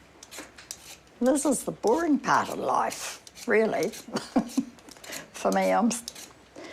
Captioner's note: laughs